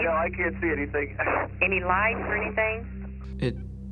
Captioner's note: on phone